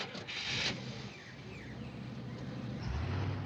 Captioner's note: engine starting